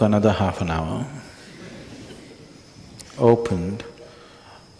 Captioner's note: laughter